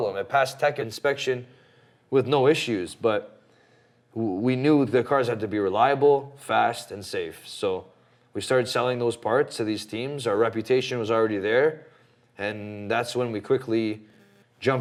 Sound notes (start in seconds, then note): none